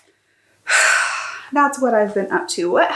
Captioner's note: dramatic sigh